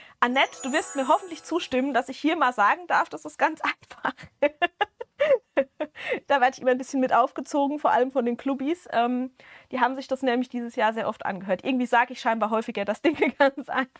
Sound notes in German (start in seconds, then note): 4.1 Gelächter; 5.5 japst